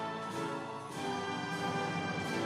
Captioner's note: audience cheering